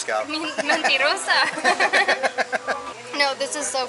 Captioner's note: laughter